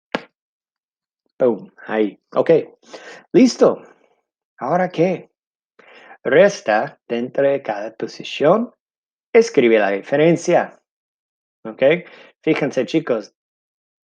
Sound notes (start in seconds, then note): 3.5 speaking in foreign language